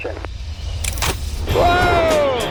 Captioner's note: lever clatters